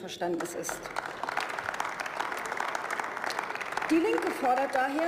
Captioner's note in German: Beifall